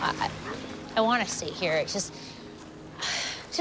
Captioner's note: sighs